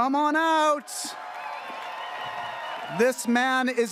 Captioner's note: audience cheering